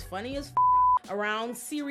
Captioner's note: beep